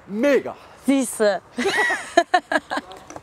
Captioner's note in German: beide lachen